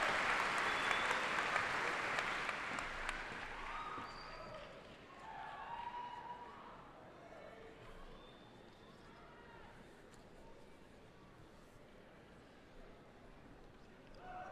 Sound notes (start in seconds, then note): 0.0 applause